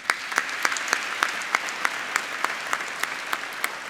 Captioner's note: applauding